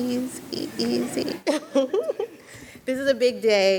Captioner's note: laughs